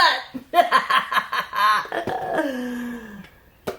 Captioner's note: laughs